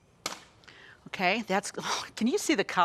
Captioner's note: scoffs